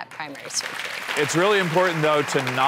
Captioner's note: clapping